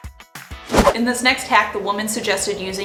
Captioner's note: whooshing